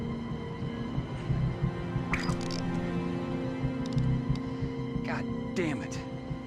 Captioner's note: fishing line whips